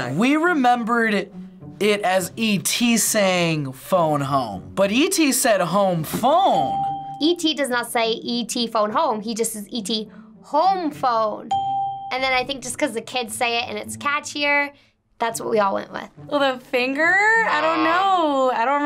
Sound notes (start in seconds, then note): 6.6 bell rings; 11.5 bell rings